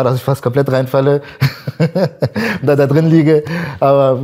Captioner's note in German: lacht